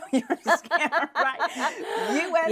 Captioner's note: laughs